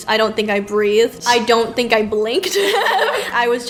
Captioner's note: laughs